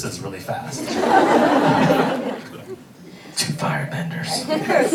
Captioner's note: audience laughing